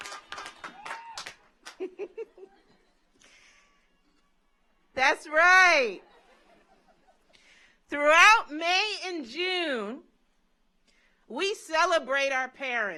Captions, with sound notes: That's right. (audience laughs) Throughout May and June, we celebrate our parents.